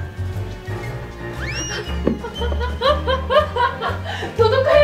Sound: laugh

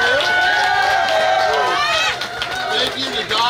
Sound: cheering & Clapping

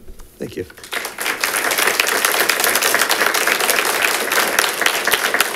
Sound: congregation applauds

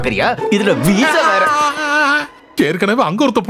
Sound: groans

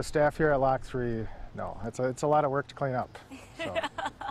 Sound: laughter

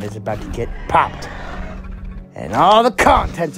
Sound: Ares purring

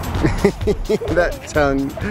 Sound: laughs

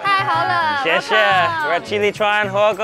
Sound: all speaks Mandarin

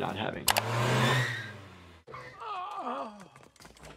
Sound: car revving

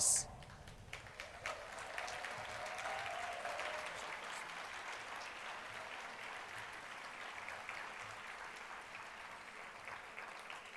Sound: applause

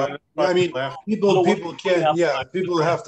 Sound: laughter

